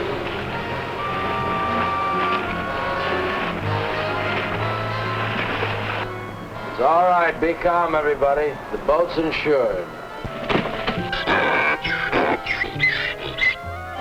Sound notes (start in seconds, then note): 4.1 squeaking; 8.1 speaking spanish